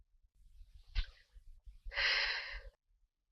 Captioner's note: exhales smoke